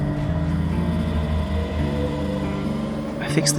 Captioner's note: electric train engine whirrs